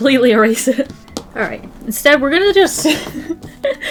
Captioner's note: laughs